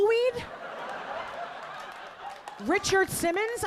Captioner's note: audience laughing